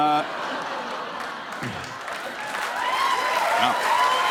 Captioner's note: cheers and applause